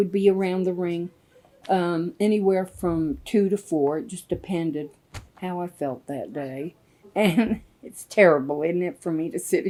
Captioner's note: laughs